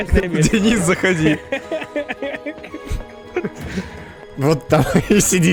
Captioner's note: laughter